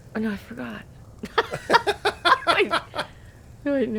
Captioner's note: both laughing